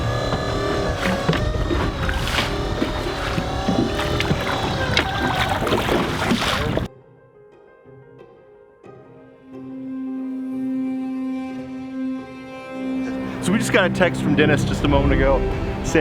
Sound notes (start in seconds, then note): 0.0 machine whirring; 2.1 water splashing